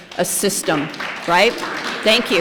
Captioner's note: applause